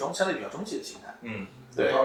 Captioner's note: nonverbal grunt as interjection